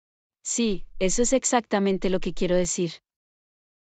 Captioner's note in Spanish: none